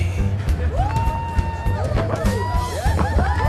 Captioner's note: audience whooping